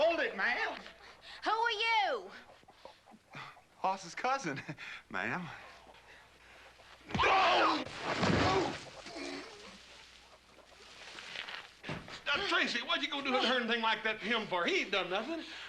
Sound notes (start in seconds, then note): 5.6 shrieks; 9.0 groaning